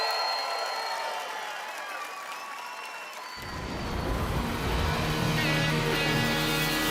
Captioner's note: applause